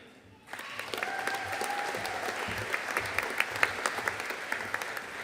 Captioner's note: audience cheering and applauding